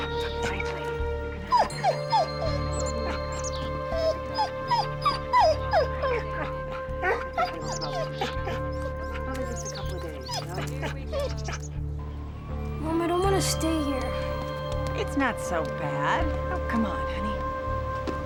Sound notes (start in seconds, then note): 1.6 whimpers